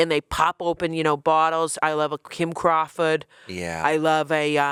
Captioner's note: none